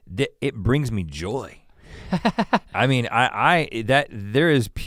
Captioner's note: chuckles